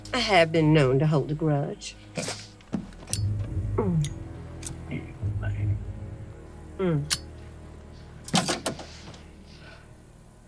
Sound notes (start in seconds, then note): 4.6 flicks lighter